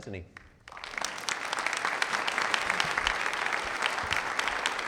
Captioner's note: people clapping